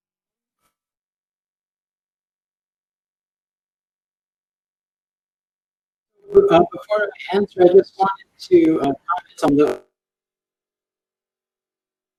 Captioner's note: broken audio